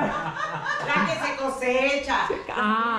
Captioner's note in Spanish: Risas